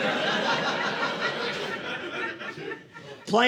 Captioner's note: audience laughing